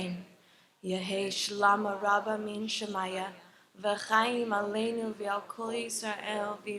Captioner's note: continues to recite the Mourner's Kaddish in Hebrew